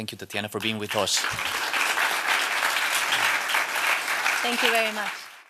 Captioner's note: applause